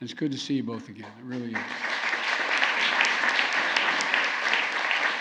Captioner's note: applause